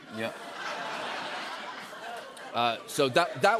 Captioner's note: laughter